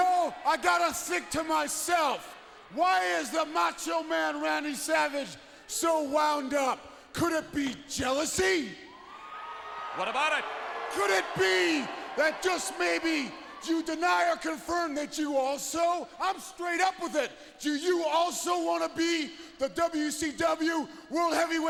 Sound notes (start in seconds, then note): 9.9 crowd cheering